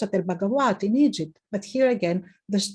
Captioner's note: speaking in foreign language